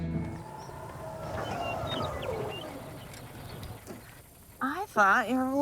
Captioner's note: birds chirping; motor whirring